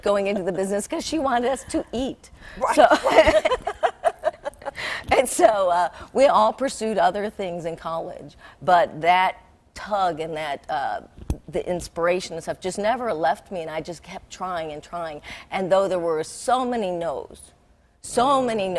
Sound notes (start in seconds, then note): 4.1 laughing